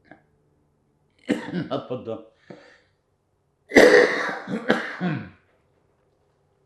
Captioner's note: coughing